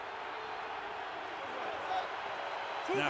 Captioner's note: cheering